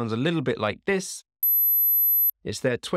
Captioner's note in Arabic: رنين عالي النبرة